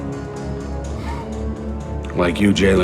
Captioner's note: chuckling